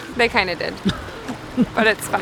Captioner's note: laughs